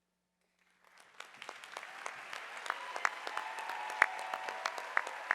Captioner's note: audience applauding